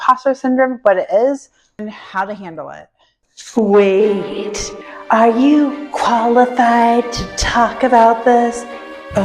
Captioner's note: sinister voice